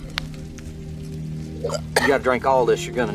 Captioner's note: Ishmael coughing